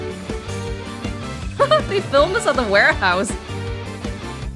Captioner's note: chuckles